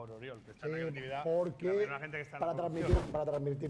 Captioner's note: speaking spanish